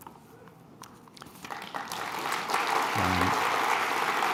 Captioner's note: applause